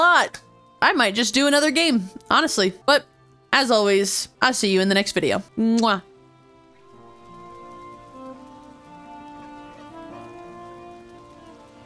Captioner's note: kiss